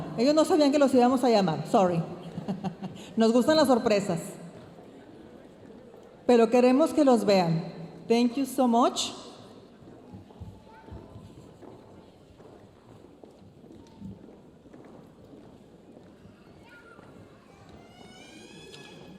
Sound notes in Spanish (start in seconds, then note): 8.1 hablando en inglés; 9.2 ruido de pasos en el escenario